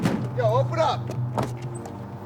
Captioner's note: knocks on door